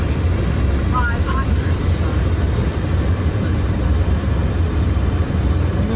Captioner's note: roaring aeroplane engine